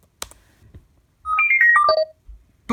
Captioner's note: computer sound